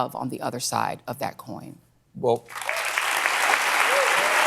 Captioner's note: applause